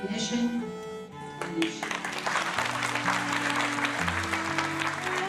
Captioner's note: applause